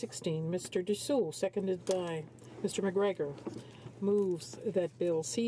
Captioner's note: speaking French